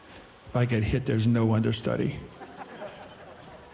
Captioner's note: audience laughing